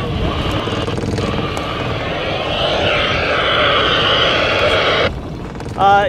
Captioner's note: loud static